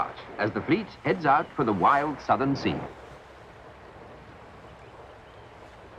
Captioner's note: water lapping